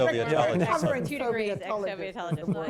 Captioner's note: laughter